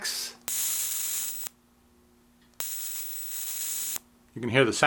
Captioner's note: high pitched hissing